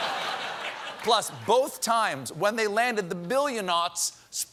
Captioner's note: laughter